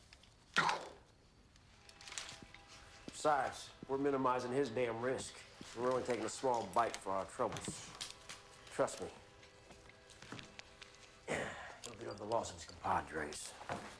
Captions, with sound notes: (Castellano mimics gunshot) - Besides we're minimizing his damn risk. We're only taking a small bite for our troubles. Trust me. Don't beat up the losses, compadres.